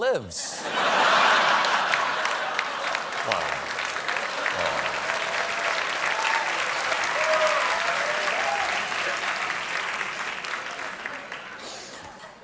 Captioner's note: laughter; applause